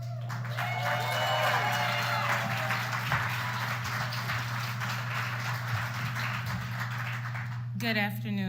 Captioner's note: applause